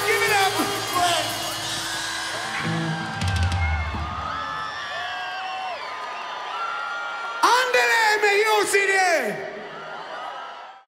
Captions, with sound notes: LOOK AT THAT! GIVE IT UP! (CROWD SCREAMING)